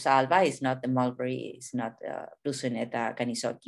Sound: speaking in a foreign language; speaking in a foreign language

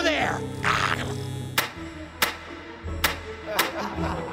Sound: electricity buzzing; button slamming; laughter

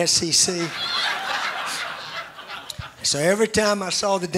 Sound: more laughs

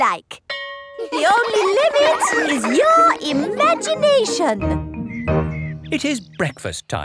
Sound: school bell rings; children laughing

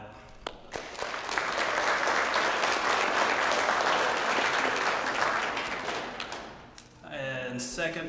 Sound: applause

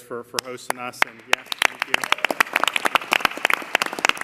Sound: applause

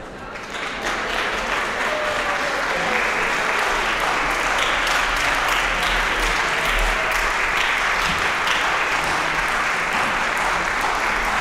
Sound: applause

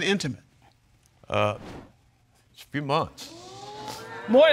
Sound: audience exclaims

